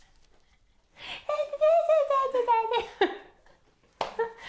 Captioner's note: laughs